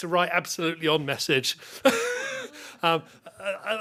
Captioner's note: chuckling